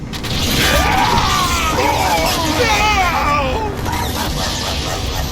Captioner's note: death scream